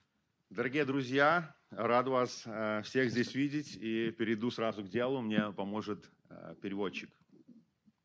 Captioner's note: speaking Belarusian